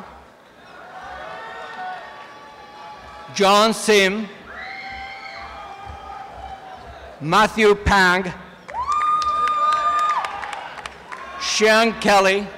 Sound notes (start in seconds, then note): 0.1 applause and cheering; 4.4 cheering